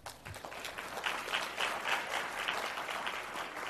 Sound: applause

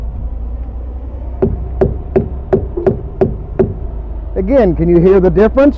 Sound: hollow thumping

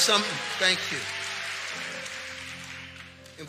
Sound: congregation cheering and clapping

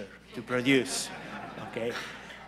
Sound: laughter

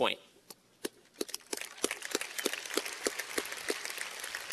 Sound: applause

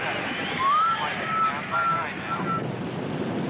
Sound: Roy whistling

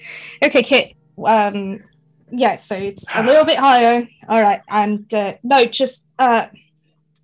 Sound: sighs

